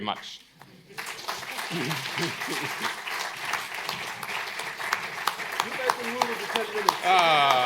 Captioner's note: applause